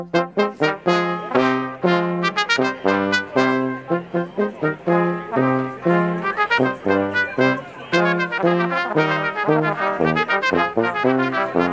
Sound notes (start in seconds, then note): 0.2 brass music; 5.4 brass music; 5.4 chattering